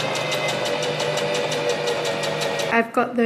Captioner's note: sewing machine surges